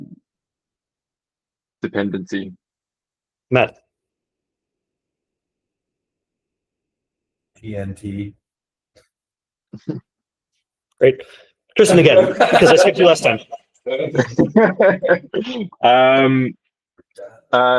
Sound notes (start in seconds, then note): 11.9 laughing; 11.9 colleagues laughing; 13.8 laughing